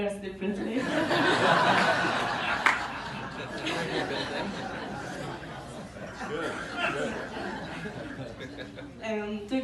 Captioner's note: crowd laughs; laughs and talk